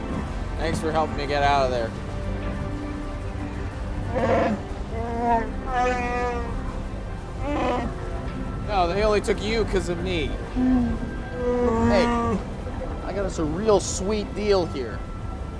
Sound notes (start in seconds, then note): 3.9 roaring softly; 10.2 roaring softly